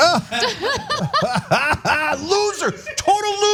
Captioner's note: laugh